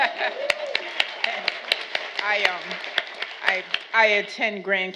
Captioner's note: audience applauding